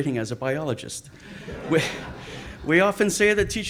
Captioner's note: audience laughs